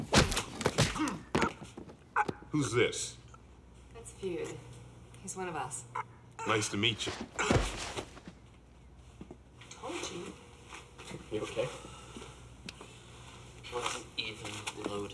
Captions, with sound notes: (grunting) - Who's this? - That's Feud. He's one of us. - Nice to meet you. - Told you. - You okay? - Loaded.